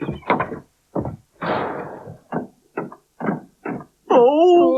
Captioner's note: Sound Of Auntie Flo And Magician Coming Up The Stairs